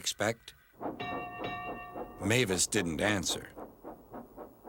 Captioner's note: dings bell